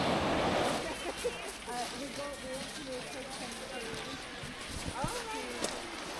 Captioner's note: background chat